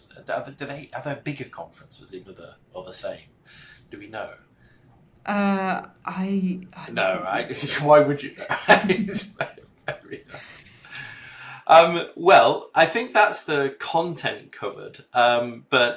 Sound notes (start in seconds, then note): 6.8 laughing